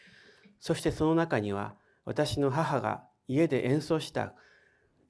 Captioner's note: speaking in foreign language